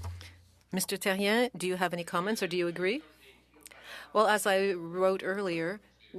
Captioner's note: speaking French